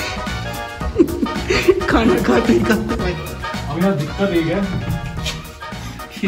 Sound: laughing

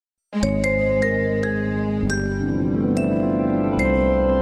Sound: remastered wondrous chime plays

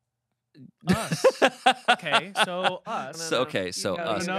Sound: laughing

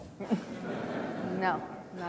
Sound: audience chuckles

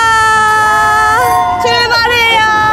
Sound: beep beep beep!!

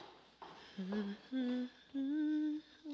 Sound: footsteps approach; Myrtilla hums

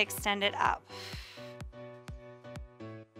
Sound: exhales

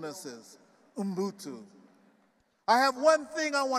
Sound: speaking in foreign language

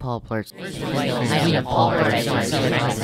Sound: more indistinct chatter

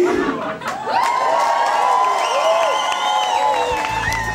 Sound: cheering, applause

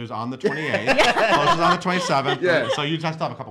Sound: laughs

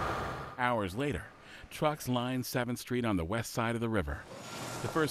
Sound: none

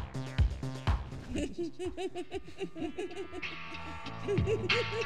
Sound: cruel laughter; mellow guitar music

